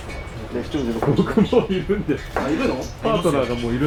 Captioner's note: laughs